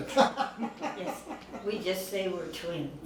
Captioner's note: laughing